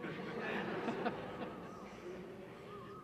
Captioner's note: laughter